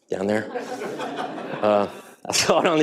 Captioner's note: audience laughing